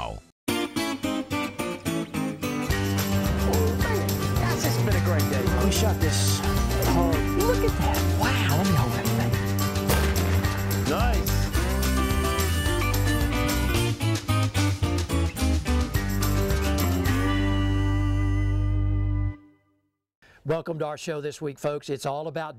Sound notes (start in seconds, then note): 0.1 country music; 9.8 gun fires